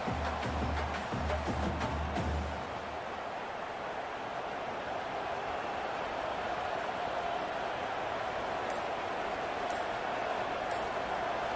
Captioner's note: crowd cheering